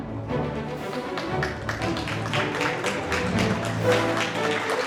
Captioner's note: applause